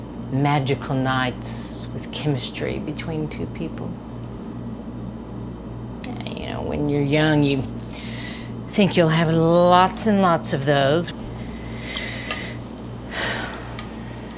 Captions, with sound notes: magical nights with chemistry between two people. You know, when you're young, you think you'll have lots and lots of those. (sighs)